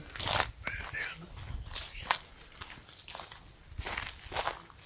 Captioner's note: murmuring